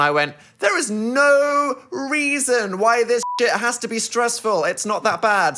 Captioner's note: beep